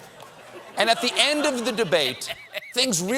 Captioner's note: laughter